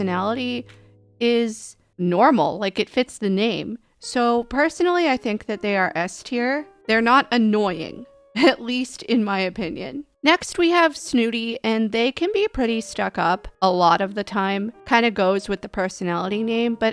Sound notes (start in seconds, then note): 9.5 laughing